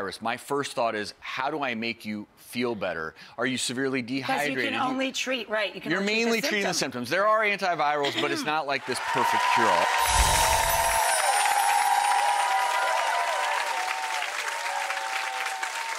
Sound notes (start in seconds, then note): 8.8 audience cheering; 9.9 chimes ringing